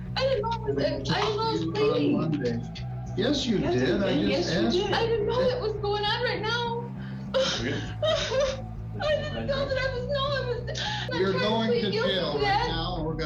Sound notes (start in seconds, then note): 7.3 sobs